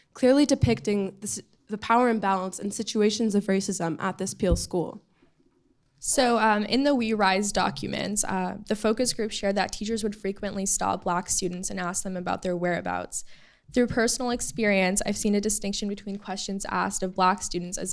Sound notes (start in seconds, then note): none